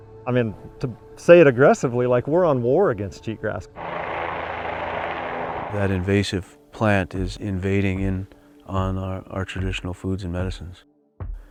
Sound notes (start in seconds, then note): 0.0 ominous music; 3.7 helicopter blades whirring